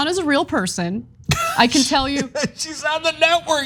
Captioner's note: laugh